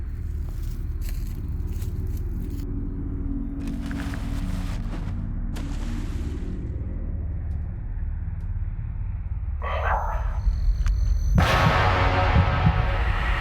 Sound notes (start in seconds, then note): 0.1 leaves crunch; 2.2 ominous music; 3.6 tarp rustles; 5.6 water splashes; 9.7 ominous musical score; 11.0 dramatic musical score